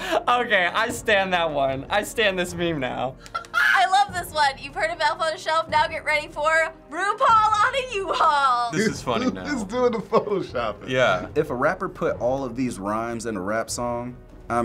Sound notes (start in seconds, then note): 3.1 crowing